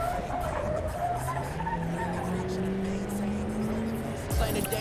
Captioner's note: rap music in background; tires squeals; rap music on radio